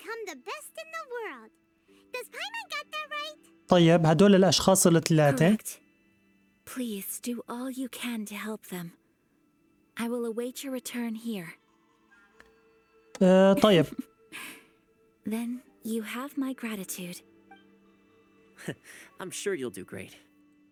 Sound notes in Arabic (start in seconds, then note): 13.2 ضحكات خافتة